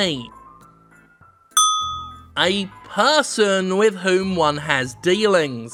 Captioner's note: ding!